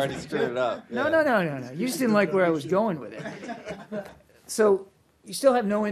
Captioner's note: laughter